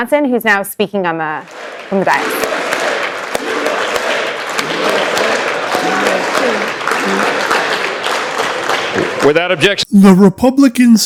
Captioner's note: Chants of USA! USA!